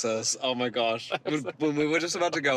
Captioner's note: laughing